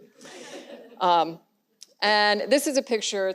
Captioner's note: audience laughs